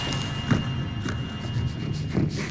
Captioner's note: Buddy snorts and grunts